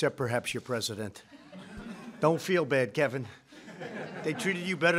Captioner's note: laughter